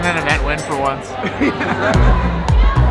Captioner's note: laughter